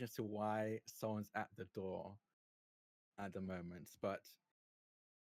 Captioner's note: none